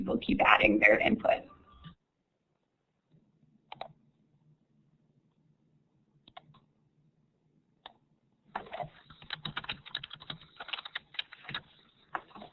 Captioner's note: silence